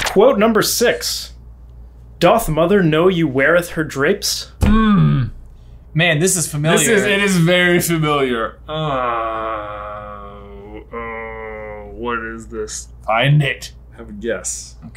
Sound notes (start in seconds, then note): 4.6 hand bangs; 8.7 grunts